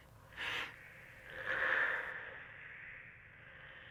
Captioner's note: snake hissing